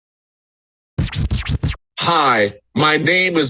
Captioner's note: old-school record scratch; speaking via AAC